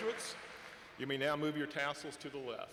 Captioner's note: applause